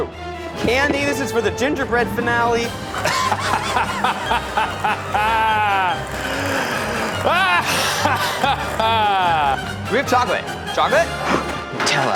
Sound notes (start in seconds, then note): 2.6 continues cackling maniacally